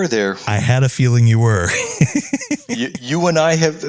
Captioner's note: laugh